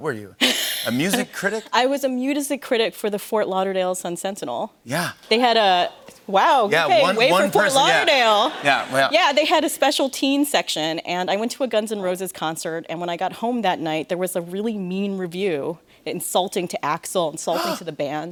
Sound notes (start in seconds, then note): 0.6 laughs; 7.0 laughter